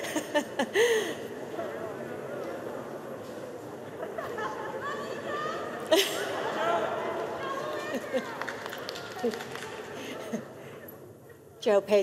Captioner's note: laughter